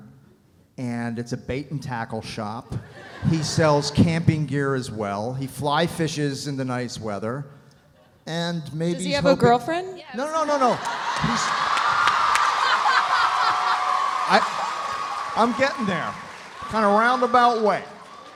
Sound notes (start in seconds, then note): 12.2 audience applauding; 12.2 audience laughs